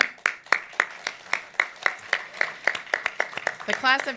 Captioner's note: audience applauds